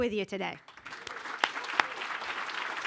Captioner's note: applause